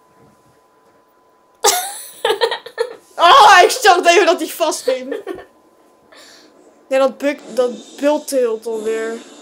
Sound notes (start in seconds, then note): 1.6 laughs historically